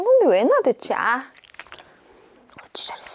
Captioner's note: pop in